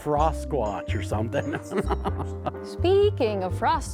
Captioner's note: laughing